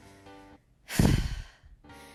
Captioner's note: sigh